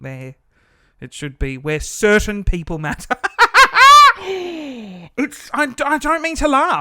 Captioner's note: laughing